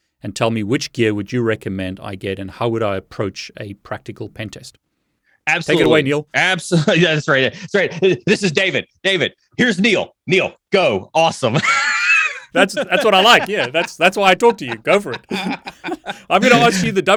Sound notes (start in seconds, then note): 11.6 laughs